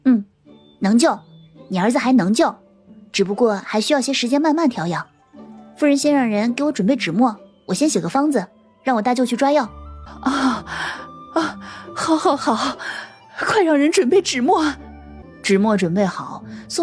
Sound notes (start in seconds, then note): 10.0 gasps